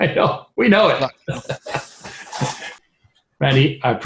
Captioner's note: laughs